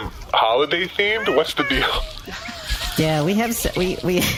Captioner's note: laughs